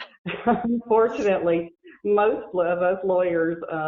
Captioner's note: laughing